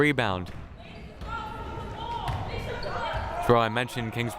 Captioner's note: player shouting